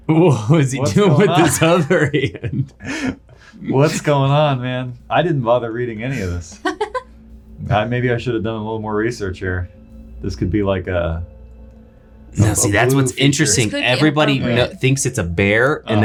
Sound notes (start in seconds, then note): 6.1 laughing